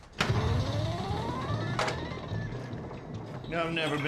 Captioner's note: pinball machine